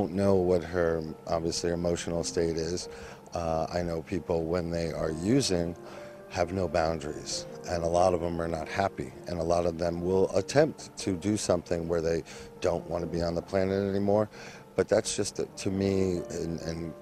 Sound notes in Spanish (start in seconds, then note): 10.9 hablan en ingles